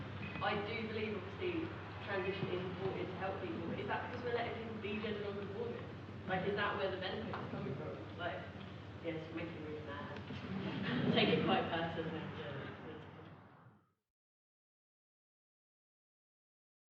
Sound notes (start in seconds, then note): 10.6 audience laughter